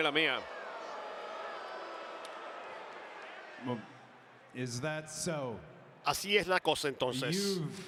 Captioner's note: applause